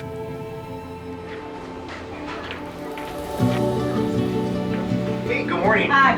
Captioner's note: gentle music; shoes tapping